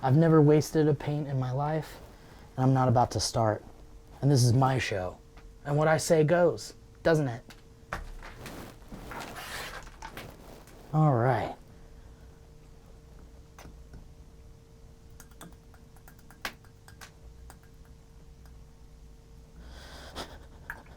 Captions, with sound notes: I've never wasted a paint in my life and I'm not about to start and this is my show and what I say goes, doesn't it? All right. (tapping brush)